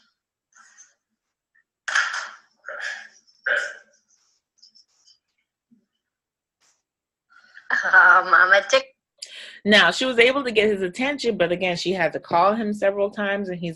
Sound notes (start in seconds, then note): 8.6 disembodied Female Voice